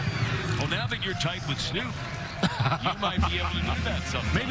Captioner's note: laughter